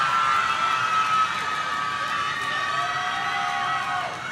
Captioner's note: audience cheering